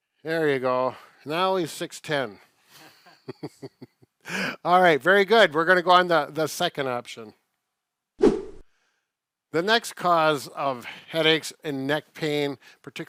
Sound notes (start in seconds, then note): 2.7 both chuckling; 8.2 air swooshing